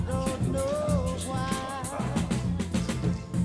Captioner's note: indistinct chatter